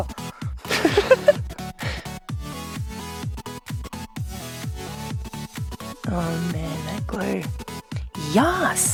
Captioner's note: laughs